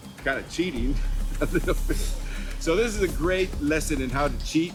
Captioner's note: chuckles